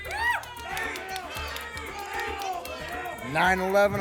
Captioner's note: audience shouting numbers